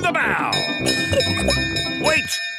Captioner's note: bell chimes